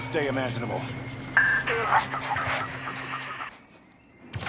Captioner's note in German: Lacht